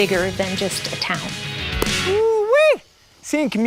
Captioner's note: book slaps shut